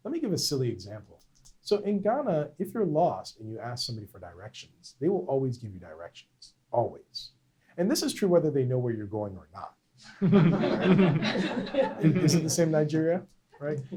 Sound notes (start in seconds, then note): 10.0 laughter